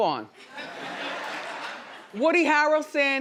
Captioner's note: audience laughing